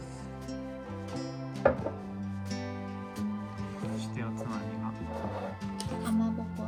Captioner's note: laughs